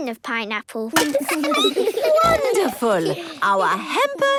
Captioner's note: laughing, snorts